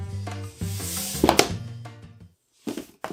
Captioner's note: smash